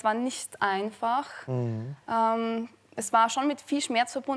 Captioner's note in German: none